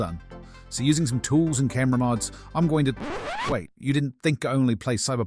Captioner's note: record scratch